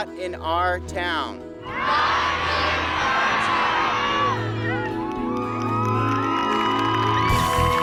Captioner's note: cheers